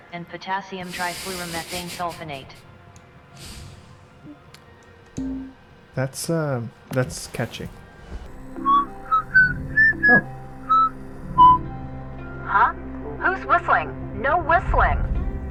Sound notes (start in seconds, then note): 0.8 laugh; 8.5 whistling